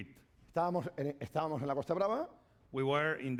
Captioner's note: speaking spanish